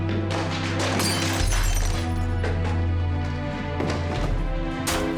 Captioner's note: glass breaking; objects clattering